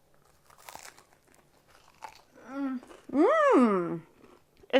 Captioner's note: bread crunching